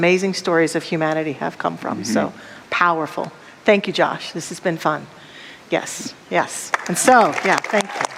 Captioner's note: audience applause